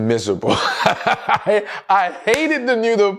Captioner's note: laughs